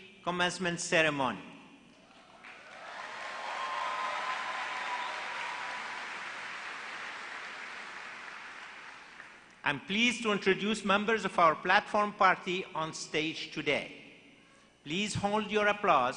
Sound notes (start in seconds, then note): 5.2 applause